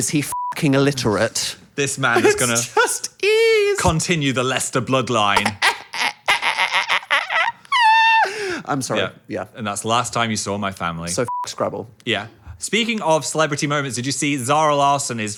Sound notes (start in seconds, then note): 5.3 fake cries